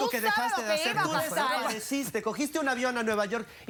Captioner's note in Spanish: Hablan al unísono